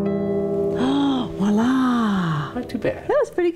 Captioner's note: gasps